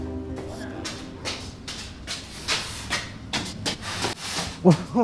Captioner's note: footsteps approaching